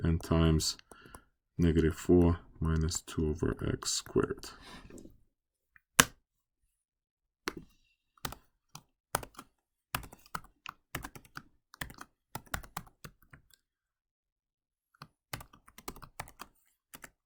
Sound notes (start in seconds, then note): 4.7 typing